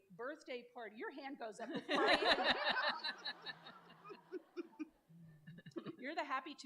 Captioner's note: laughter